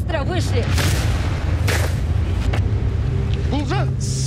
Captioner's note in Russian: выстрел